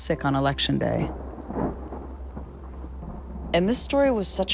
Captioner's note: thundering